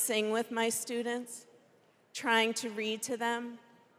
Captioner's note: none